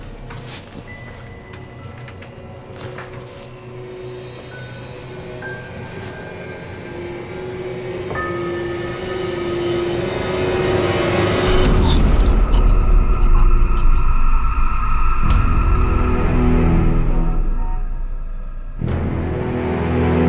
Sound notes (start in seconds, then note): 1.0 pages rustling; 5.7 suspenseful dramatic music; 8.6 suspenseful music crescendos; 12.1 chokes; 16.3 suspenseful dramatic music